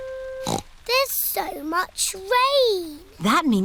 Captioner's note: snorts